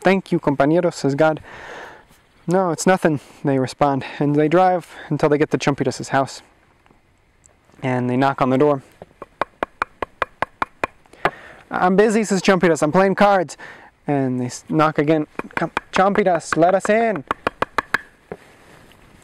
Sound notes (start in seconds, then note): 9.0 knocking